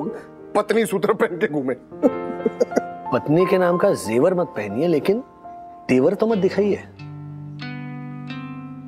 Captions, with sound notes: should we husbands also wear something like that? [chuckling] There's no need to wear any jewellery, but we can be respectful towards them.